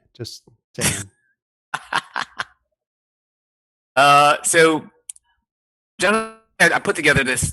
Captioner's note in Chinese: 笑声